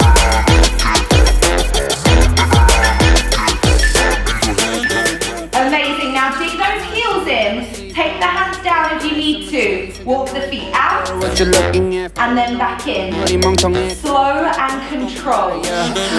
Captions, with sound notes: (timer beeps) Amazing! Now, dig those heels in. Take the hands down if you need to. Walk the feet out and then back in. Slow and controlled.